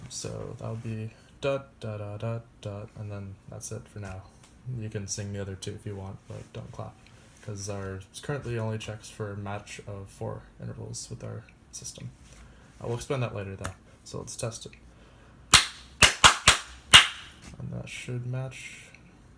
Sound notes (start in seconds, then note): 16.0 clapping